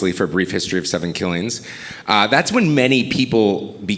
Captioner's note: none